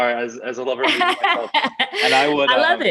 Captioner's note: laughs